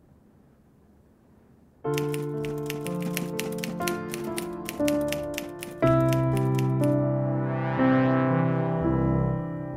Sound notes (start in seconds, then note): 1.9 typewriter clicks; 8.2 sad, dramatic music